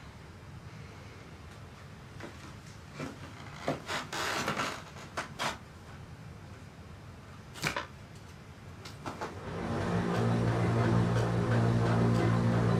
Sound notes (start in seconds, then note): 3.0 floor creaking; 9.4 suspenseful music